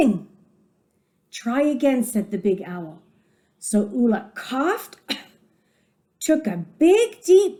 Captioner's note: coughed